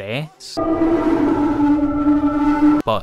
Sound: distortion

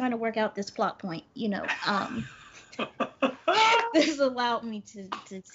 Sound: laughs; Brennan laughs

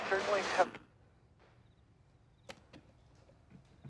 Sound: radio cuts out

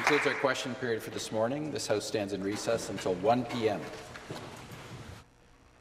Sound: applause

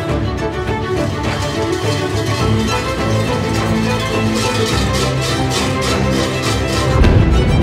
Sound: dramatic music; bells clattering; dramatic music

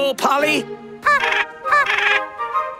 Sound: penguin noises

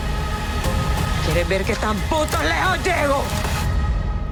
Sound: in Spanish

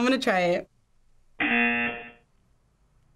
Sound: buzzer

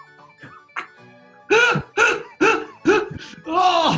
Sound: sniggering; laughing

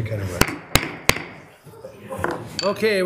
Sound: gavel thudding

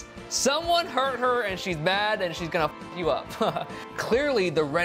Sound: laughs

